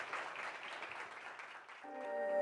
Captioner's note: applause